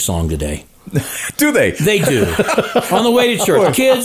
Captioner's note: laughs